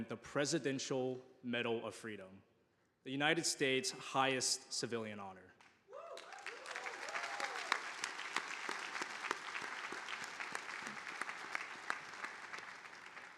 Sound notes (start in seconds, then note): 5.9 audience applauding